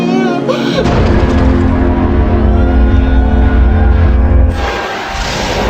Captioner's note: strong Horn, Audiance Cheering; wormhole Noises